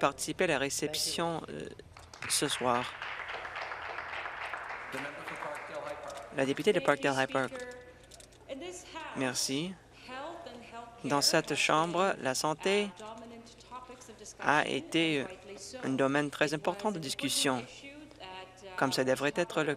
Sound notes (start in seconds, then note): 6.1 some Applause